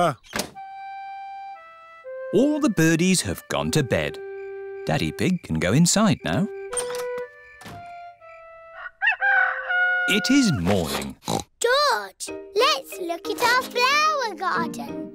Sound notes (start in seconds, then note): 8.2 rooster crowing; 10.4 oinks